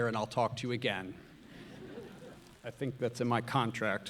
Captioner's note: audience laughs